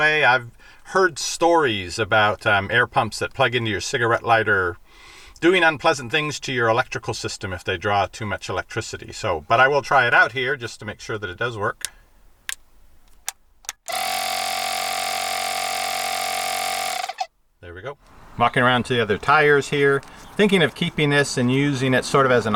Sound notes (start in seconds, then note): 13.9 buzzing